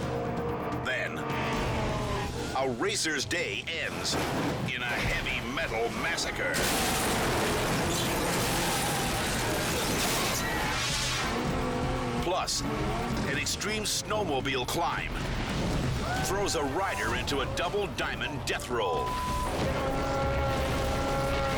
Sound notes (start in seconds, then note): 0.0 dramatic music; 0.0 engines revving; 6.7 car crashing